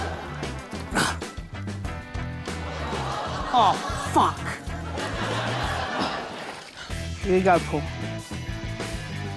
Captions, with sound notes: (GRUNTS) Oh fuck! (GRUNTS, PANTS) - Here we go, Paul.